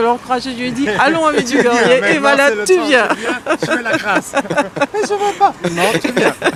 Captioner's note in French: rires